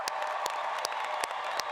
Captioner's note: applause